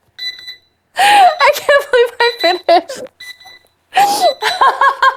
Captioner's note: laughing